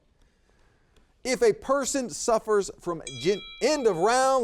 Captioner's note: bell dings